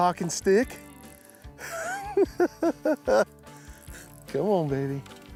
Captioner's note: giggles